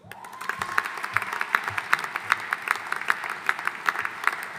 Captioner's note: audience applauding